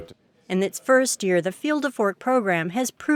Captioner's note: voiceover